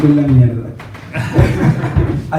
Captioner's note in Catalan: rialles